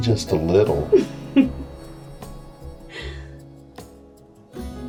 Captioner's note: Giuliana laughs; mellow guitar music